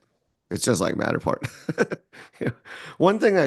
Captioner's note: laughs